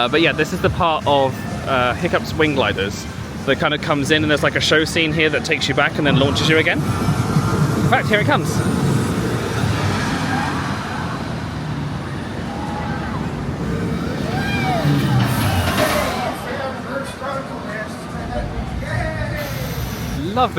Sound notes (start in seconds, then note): 9.0 roller coaster wheels thundering; 12.3 guests squealing